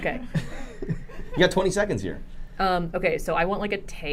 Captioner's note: laughing